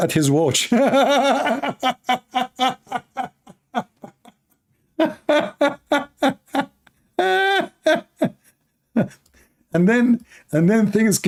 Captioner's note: Ketawa